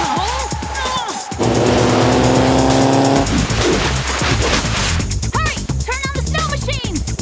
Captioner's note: grunting